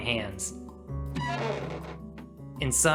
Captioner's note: door opening